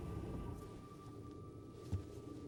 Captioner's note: engine shuts off